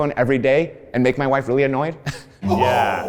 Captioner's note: laughs